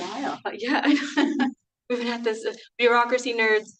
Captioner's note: laughs